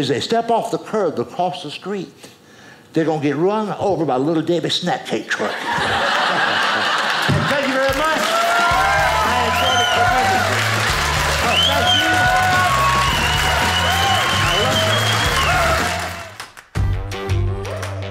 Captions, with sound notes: and as they step off the curb to cross the street, they're gonna get run over by a Little Debbie Snack Cake truck. (audience laughing) Thank you very much! (audience cheering) Thank you. Oh, thank you. (audience cheers)